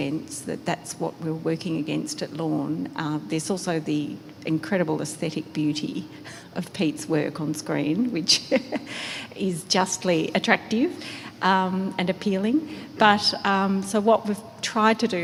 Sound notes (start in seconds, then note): 8.4 laughs